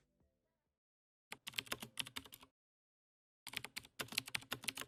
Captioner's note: typing